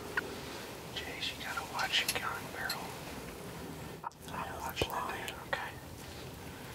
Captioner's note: whispering